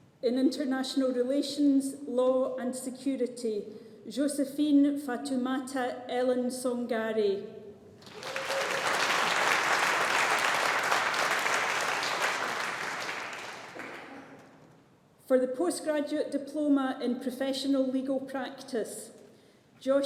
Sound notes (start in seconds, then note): 8.0 audience applauding